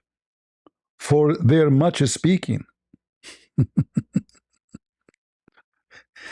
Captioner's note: ketawa